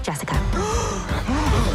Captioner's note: gaaaaaasps; gasp